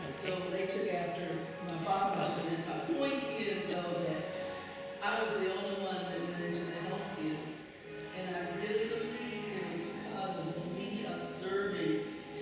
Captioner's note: laughs